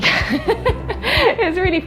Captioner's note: laughs